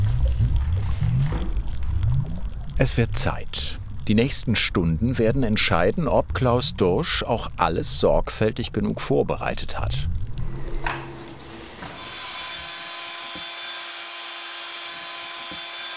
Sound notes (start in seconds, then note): 11.9 low whirring